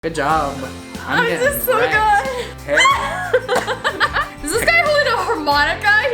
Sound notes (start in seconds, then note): 2.7 laughs